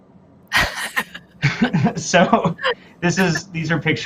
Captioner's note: laughter